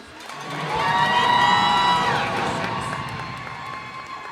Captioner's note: cheers and applause